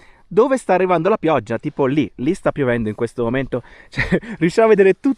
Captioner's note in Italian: risate